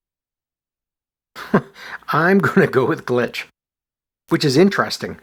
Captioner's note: chuckles